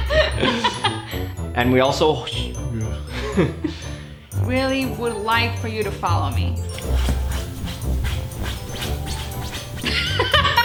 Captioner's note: scratching noises